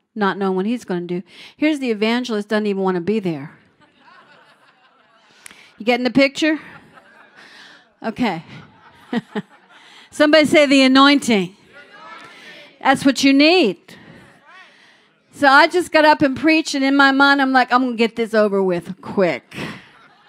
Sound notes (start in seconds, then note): 3.7 laughter; 3.8 crowd; 6.6 more laughter; 6.7 crowd; 8.8 light chuckle; 11.5 crowd